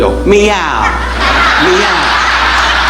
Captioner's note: audience laughing